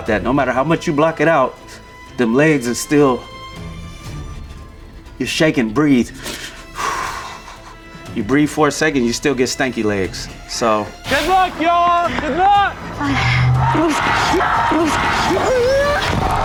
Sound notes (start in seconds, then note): 6.1 exhales; 13.1 teammate groans